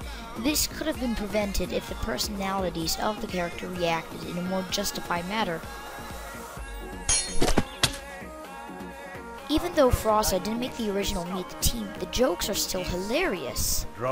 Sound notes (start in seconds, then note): 7.0 sword cling